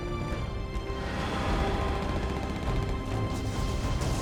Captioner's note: guns fire